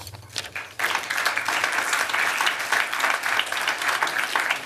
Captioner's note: applause